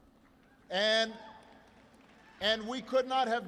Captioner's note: applause